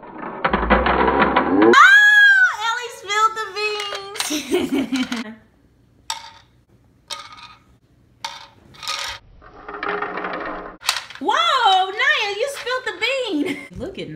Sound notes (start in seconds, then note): 4.2 laughing